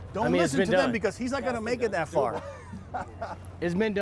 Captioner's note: laughs